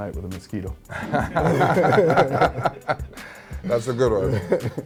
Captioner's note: laughs